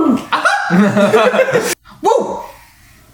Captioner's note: laughs